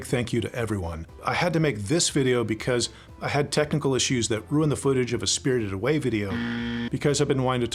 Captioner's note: buzzer sound